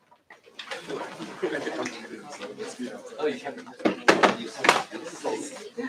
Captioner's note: chatter